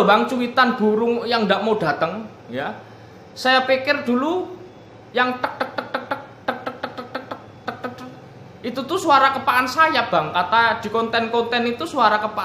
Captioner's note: laughs